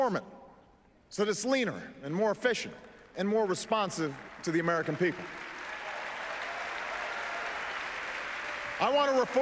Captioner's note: applause